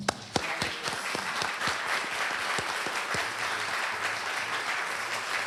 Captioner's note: applause